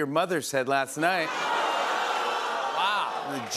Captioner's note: audience "Ohhs!"